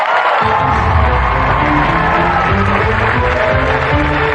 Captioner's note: cheering and applause; dramatic music